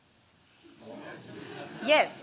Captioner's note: laughter